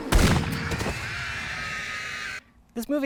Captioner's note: screaming